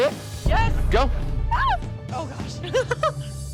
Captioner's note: girl screams; laughs